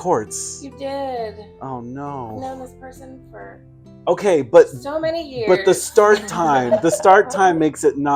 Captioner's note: laughing in the background